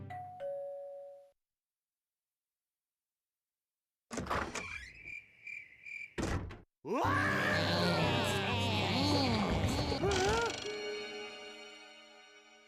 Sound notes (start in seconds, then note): 0.0 doorbell rings; 5.0 crickets chirping; 6.8 screaming; 10.0 gasping